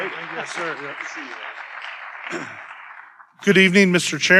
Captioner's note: audience applauding